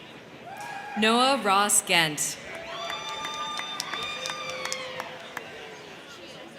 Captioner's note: crowd cheering